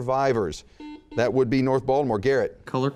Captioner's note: buzzing